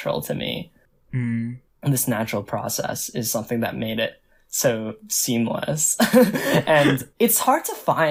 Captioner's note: both laugh